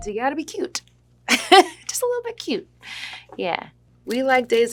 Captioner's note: laughs